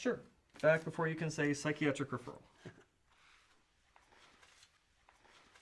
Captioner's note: clock ticking